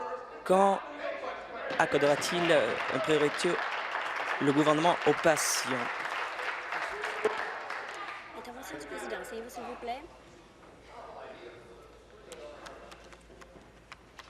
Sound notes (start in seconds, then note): 5.5 applause